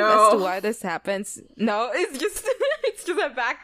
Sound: laughs

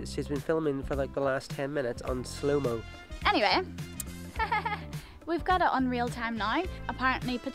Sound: nervous laughter

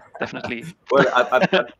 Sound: both laughing

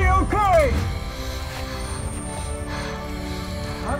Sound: labored breathing

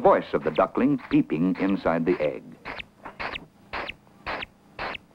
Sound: duckling sounds

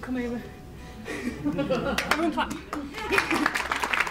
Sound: audience claps

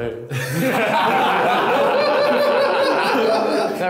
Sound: laughing

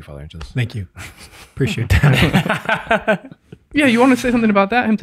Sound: laughs

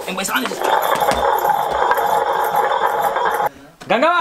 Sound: grinding stone hissing

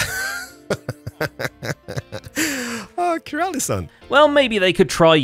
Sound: chuckles

